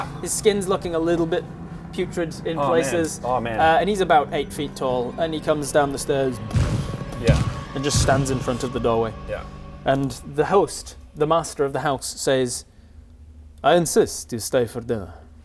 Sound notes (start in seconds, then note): 6.4 stomp stomp